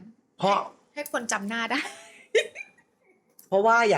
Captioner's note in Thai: เสียงหัวเราะ